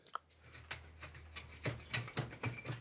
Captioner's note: quiet scraping